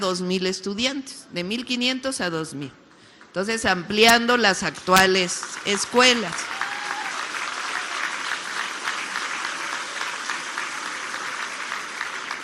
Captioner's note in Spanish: aplausos